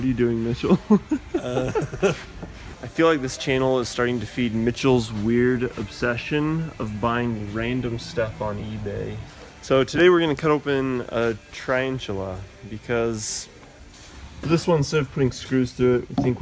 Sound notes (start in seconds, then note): 0.6 laughter